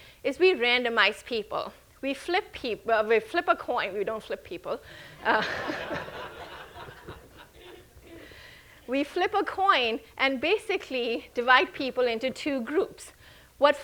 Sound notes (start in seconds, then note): 5.1 chuckles; 5.2 audience laughing